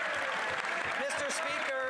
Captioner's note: some Applause